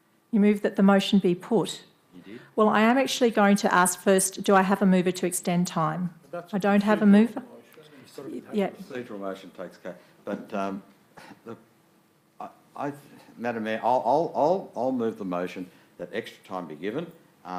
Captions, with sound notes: - You move that the motion be put? - Indeed. - Well, I am actually going to ask first, do I have a mover to extend time? I don't have a mover. - (speaks faintly) But, Madam Mayor, I'll move the motion that extra time be given,